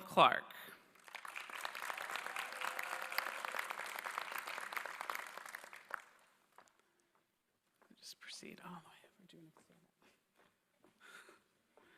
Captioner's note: applause